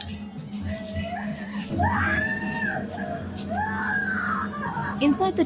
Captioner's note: intense music; intense screaming